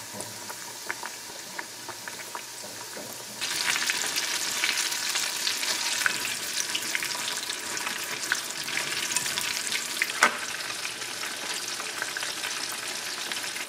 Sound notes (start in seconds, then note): 3.2 the sound of frying is always good to hear